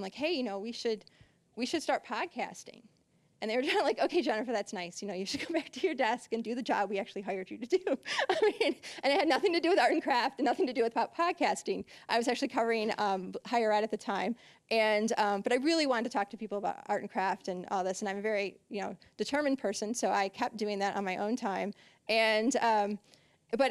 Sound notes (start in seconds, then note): 7.9 laughing